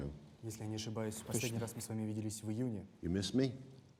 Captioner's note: Putin speaks Russian